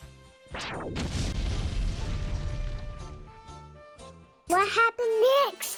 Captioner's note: bag of flour exploding + animu SFX; fireball + Splosion